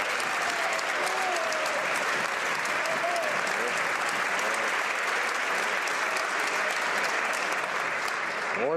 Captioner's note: some Applause